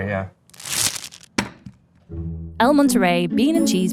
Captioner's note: wrapper ripping; burrito thumping